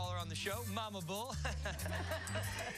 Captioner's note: laughter